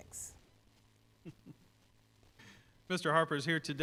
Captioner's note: chuckles